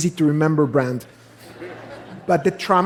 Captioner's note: laughter